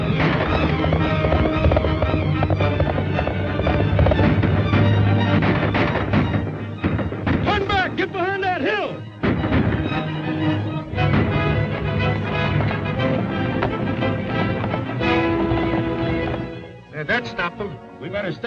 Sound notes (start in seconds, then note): 4.9 guns firing; 10.5 dramatic orchestral music continues